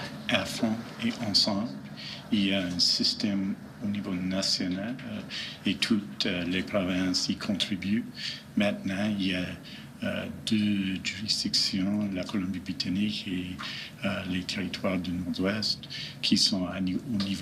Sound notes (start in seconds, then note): 1.9 speaking French; 14.7 speaking French